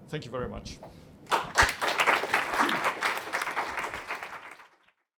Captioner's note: applause